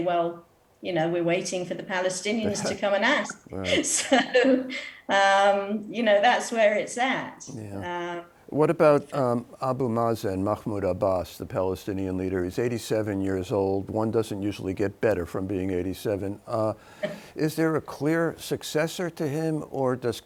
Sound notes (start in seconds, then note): 3.4 chuckling